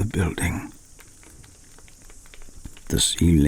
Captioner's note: fire crackling and night insect buzzing